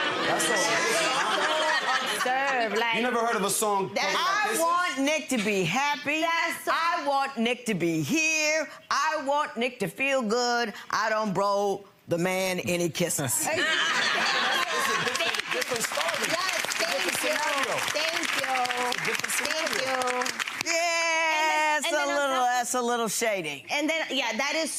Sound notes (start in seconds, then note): 13.4 audience laughs